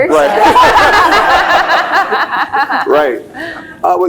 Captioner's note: laugh; laughs